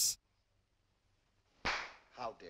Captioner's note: clap